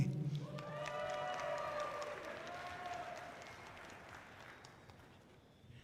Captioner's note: audience cheering loudly